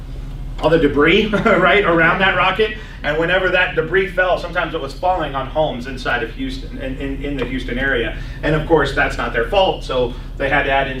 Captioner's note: laughs